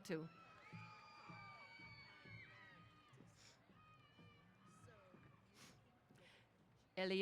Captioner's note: cheers